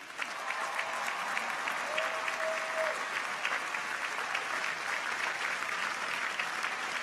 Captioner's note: audience applauds; people cheer